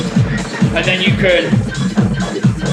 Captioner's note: noise pitches down; noise pitches up